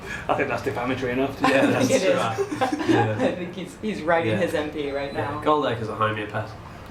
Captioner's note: laughing